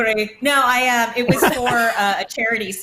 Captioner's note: laughs